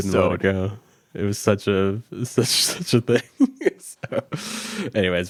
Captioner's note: chuckles